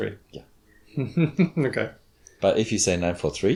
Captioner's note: chuckles